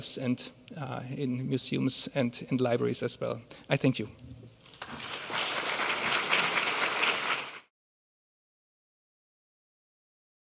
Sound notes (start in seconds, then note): 4.7 audience applauding